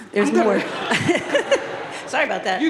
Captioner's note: audience laughing